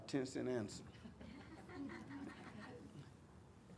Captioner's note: crowd chuckles